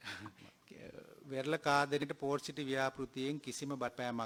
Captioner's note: laughs